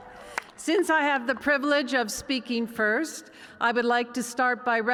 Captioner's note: applause